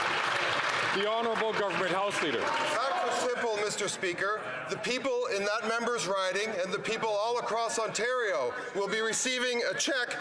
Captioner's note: some Applause